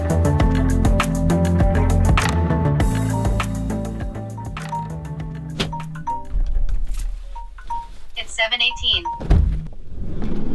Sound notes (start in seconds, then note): 5.1 phone Alarm